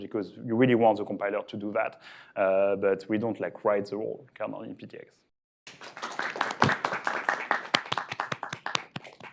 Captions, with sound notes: because you really want the compiler to do that but we don't like write the whole kernel in PTX. (students applauding)